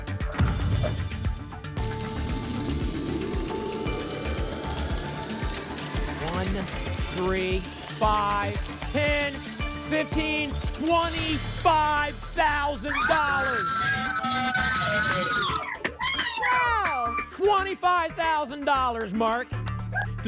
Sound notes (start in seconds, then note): 0.3 thump; 1.8 coins jingling; 12.4 applause and cheering